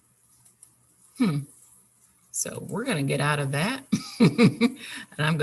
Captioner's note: laughs